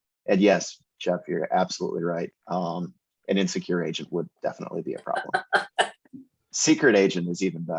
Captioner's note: laughs